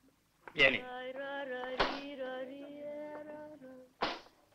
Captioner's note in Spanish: crujir de la puerta